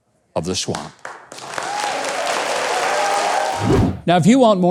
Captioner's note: audience applauding